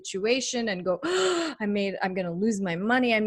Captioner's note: breathes heavily